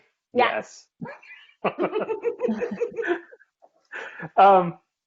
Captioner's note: laughing